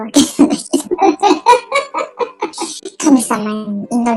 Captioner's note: laughs